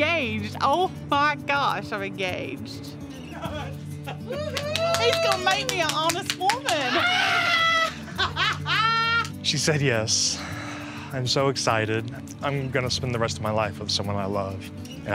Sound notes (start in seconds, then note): 4.0 laughs; 4.4 clapping; 6.3 laughs; 10.3 exhales